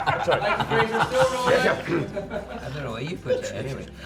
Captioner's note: laughter